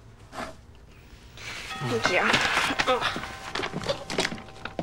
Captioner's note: doorbell rings